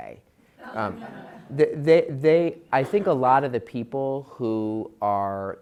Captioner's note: laugh